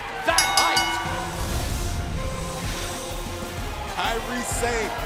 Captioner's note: bell ringing